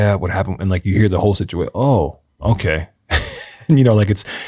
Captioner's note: laughs